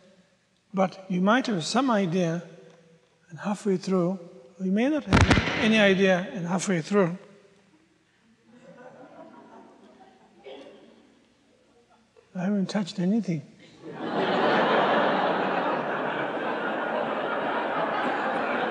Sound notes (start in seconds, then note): 5.0 microphone distraction; 13.7 audience laughs